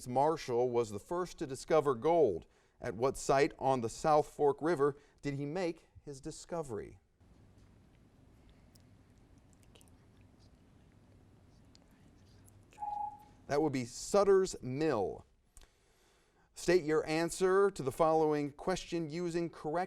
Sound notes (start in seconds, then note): 11.7 whispered conferring; 12.8 timer dings